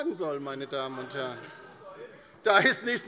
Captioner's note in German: Heiterkeit bei der LINKEN